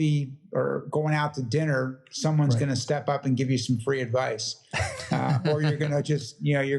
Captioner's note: laugh